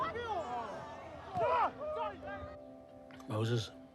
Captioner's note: onlookers groan; yells angrily